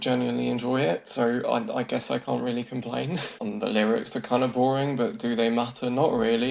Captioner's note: chuckles